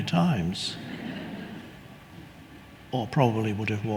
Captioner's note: audience laughs